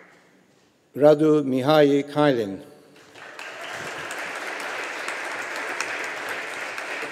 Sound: audience applauding

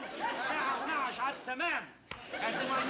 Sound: non-english speech; speaking russian

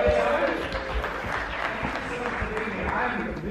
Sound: audience clapping

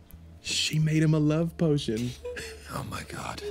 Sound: chuckling; laughter

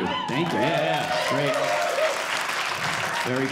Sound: audience cheering

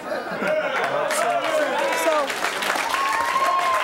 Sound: cheering

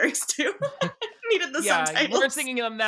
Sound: laughs

